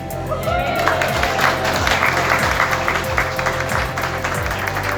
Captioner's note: people applauding